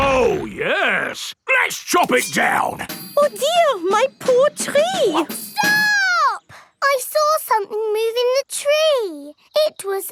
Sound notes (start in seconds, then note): none